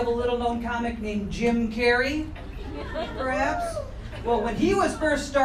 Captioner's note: woman cheering